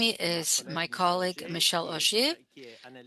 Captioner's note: speaking French